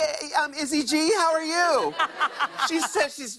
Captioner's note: laughter